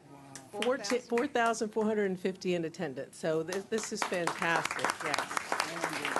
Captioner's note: applause